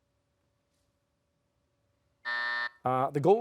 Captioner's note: buzzer